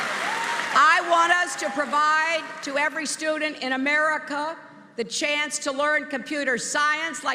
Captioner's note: applause